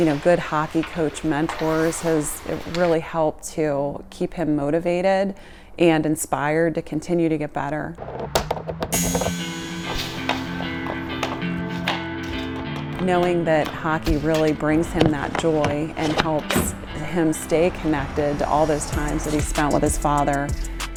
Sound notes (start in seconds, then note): 8.2 puck clatters; 9.4 upbeat music